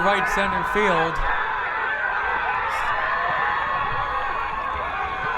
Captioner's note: crowd cheering